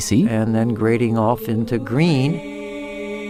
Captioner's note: recorded Voiceover